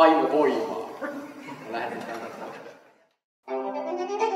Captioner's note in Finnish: Yleisö naurahtelee